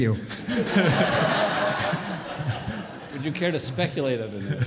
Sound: audience laughs

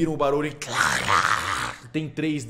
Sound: growl

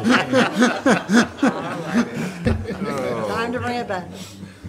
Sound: laughing

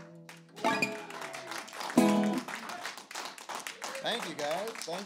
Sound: applause

